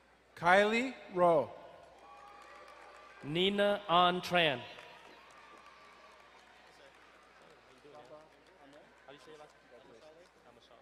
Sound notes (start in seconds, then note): 2.0 crowd cheering and applauding; 5.6 distant cheering